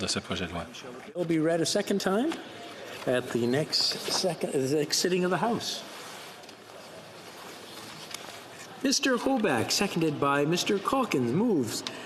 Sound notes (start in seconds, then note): 2.9 speaking French